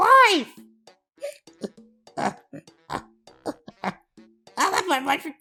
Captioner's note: breaks down crying